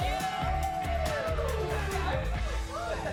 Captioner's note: cheering